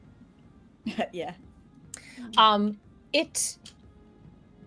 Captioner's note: chuckles